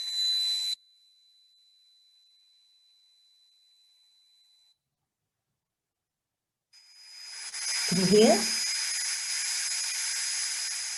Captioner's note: loud buzzing, whistling sounds are played